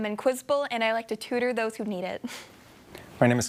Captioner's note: chuckling